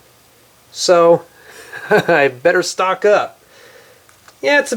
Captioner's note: laughs